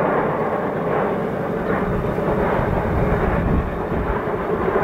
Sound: sounds from all three machines in the distance

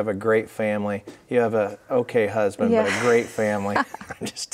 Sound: chuckling

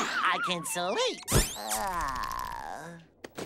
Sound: yawning

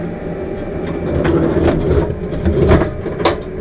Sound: chair slides

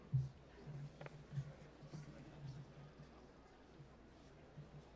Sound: none

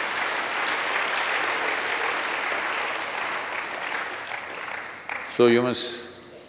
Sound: applause

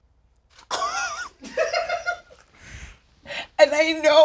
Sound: laughs

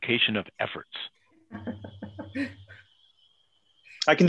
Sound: laughs

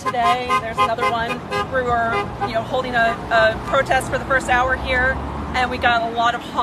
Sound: supporter honking

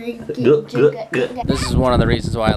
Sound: glugging

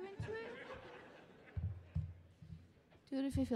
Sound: audience laughing

